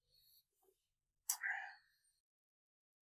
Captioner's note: lips smack